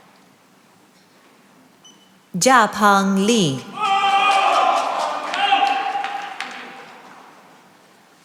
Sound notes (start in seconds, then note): 3.7 cheering and applause